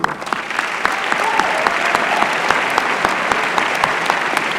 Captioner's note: applause